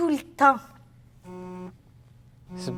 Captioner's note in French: Téléphone sonne